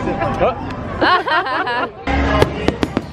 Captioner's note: laughter; fireworks explosions